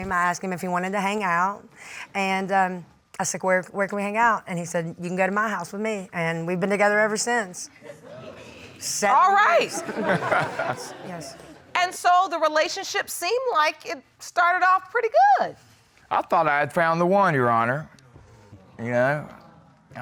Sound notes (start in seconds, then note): 9.6 crowd laughs